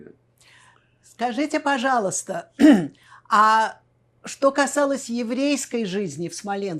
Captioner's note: clears throat